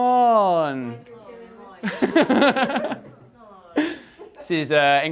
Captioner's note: audience chattering